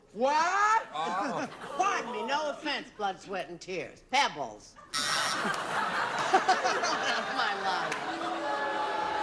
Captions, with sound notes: I NEVER HEARD OF SOME CRUDDY GROUP. WHAT? PARDON ME, NO OFFENSE, BLOOD, SWEAT, AND TEARS. PEBBLES. [LAUGHTER] THAT'S MY LINE.